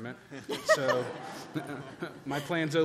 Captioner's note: laughter